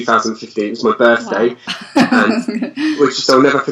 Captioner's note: laughs